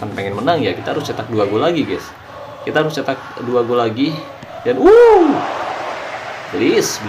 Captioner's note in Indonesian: bersorak